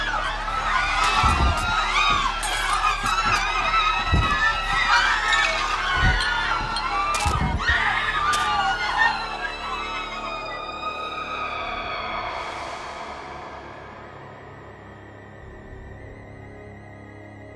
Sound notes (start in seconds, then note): 0.1 knife slicing; 2.8 party goers screaming; 14.5 ominous music